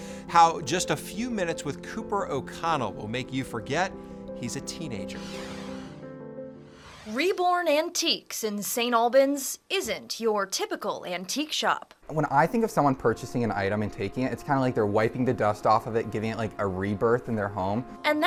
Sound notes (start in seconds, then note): 4.0 gentle music; 4.0 logo whooshes